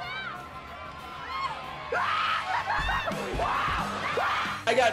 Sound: shouting

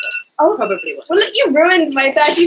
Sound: alarm ringing

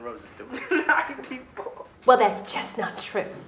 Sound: laughs

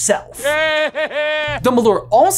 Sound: Voldemort laughs

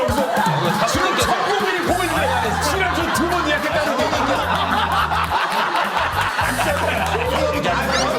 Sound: laughs

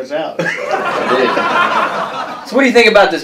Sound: laughter

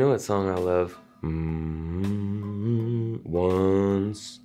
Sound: humming

